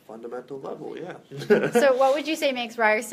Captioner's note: chuckle